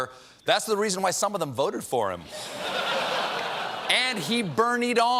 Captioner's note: laughter